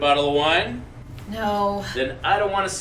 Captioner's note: sighs